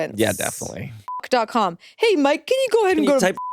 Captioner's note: beeps